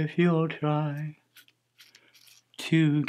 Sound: razor scratching

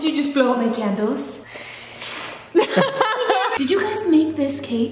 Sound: puffs air; laughs

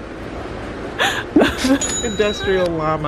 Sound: laughing

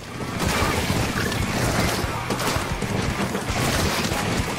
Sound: multiple splats

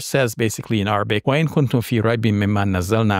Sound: speaking in Arabic

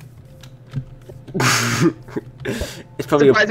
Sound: more strange laughter

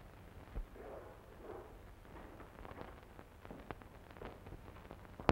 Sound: footsteps thudding

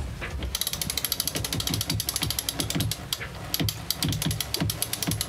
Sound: pulley ratcheting

